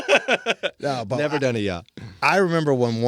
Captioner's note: laughing